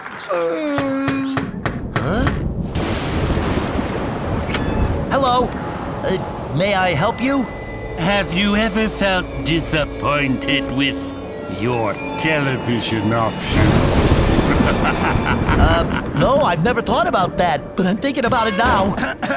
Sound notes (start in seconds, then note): 0.2 yawns; 0.8 knock on door; 1.4 thunderclap; 14.3 evil laugh